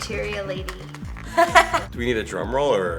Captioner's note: laughing